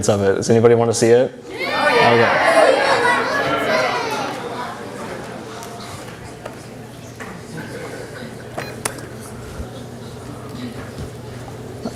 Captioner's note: audience Response and Background Noise